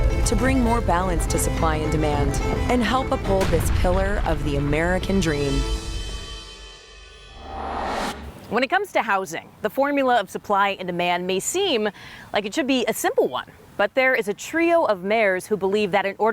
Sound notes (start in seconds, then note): 7.3 air whooshing